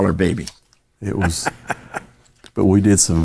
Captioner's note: laughing